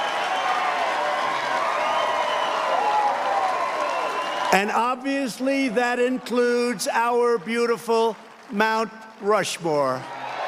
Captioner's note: cheers and applause